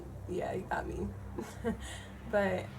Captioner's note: laughs